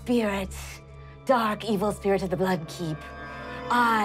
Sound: none

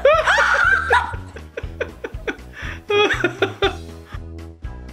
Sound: dad laughing; screaming

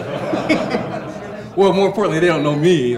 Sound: audience laughs

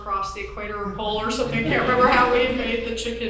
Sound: audience chuckles

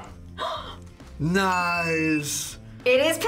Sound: gasps

